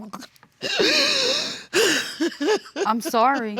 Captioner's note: crying